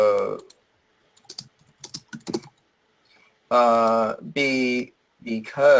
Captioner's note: keyboard strokes